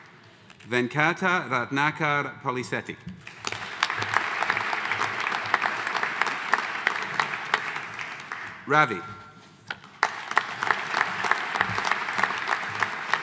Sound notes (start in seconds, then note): 3.2 audience applauding; 9.8 audience applauding